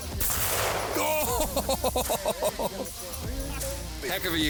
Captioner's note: gunshots ring out